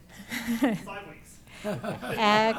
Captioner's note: laughs